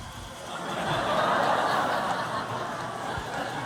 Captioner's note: laughter